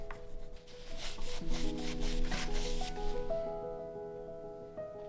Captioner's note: soft hiss of scrubbing cloth